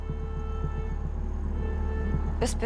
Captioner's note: horn blaring